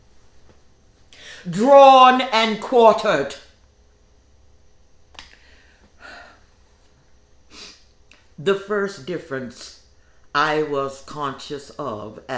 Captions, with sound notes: drawn, and quartered. (sighs) (sniffs) The first difference I was conscious of